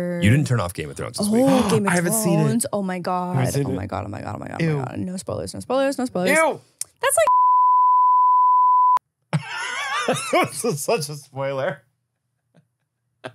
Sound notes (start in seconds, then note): 7.2 beep; 9.3 laughs